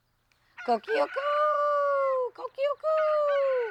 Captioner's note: rooster crowing